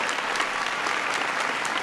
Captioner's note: applause